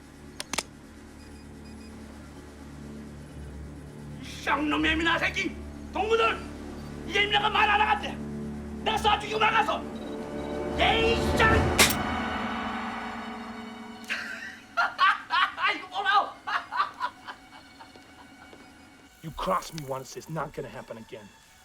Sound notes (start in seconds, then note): 3.7 Korean; 11.8 hammer Clicks; 14.7 laughs, Speaking Korean